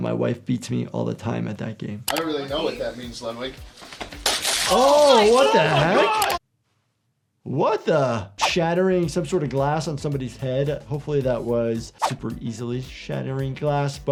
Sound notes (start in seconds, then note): 4.3 bottle clatters